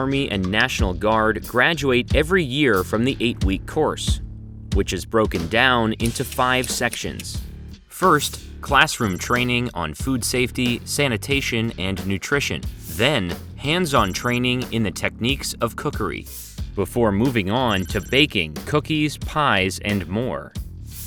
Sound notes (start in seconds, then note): none